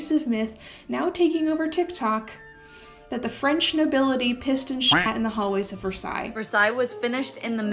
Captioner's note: quack sound